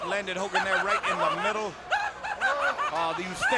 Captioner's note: Jimmy laughing